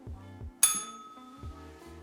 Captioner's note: bell rings